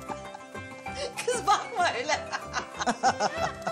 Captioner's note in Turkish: Gülüyorlar